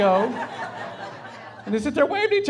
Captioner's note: laughing